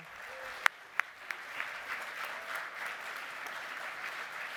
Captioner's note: applause